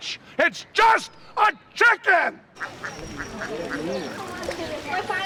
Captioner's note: ducks quacking; chatter